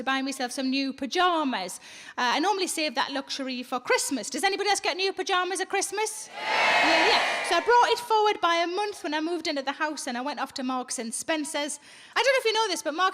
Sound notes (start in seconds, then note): 6.3 audience cheers